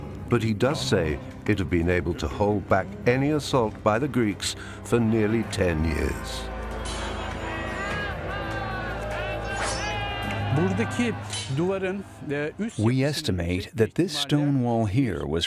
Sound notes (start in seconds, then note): 6.6 soldiers shouting; 7.7 dramatic music